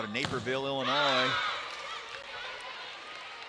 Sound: players shouting

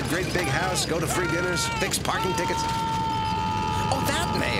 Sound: screaming

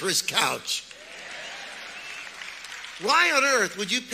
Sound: audience applauds

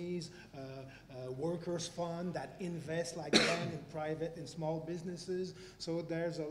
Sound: cough

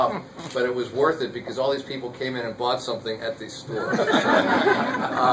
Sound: laughter

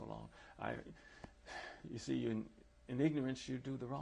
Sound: sighs

